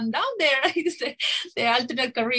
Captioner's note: giggles